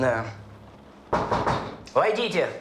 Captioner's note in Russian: стук в дверь